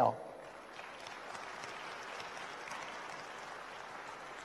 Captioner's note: audience applauds